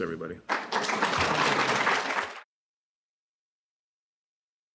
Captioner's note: applause